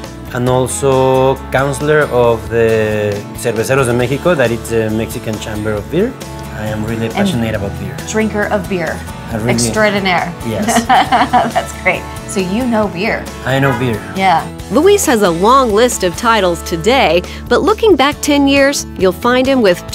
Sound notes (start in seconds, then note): 10.6 laughs